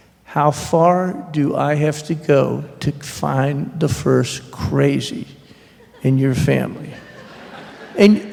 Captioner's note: laughter